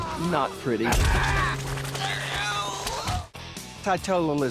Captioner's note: groaning